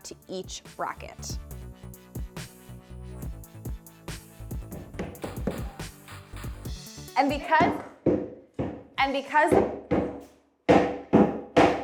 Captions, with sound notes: to each bracket. (object banging)